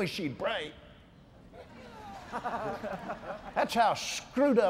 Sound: laughs

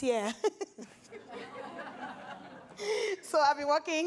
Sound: everyone laughs

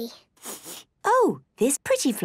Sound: sniffs

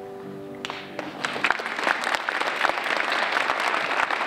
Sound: applause

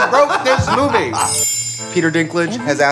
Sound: chimes

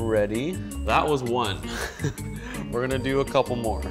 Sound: chuckles

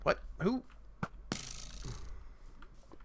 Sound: arrow hits; arrow twang

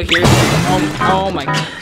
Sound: banging

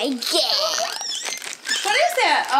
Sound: squeals

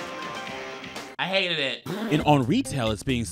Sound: blows raspberries

